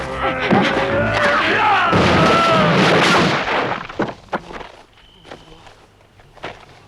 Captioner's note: Torente groaning; Hundra shouts